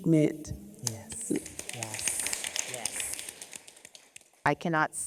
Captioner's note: audience applauding